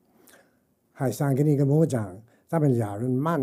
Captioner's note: speaking chinese